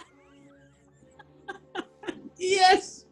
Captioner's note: laughing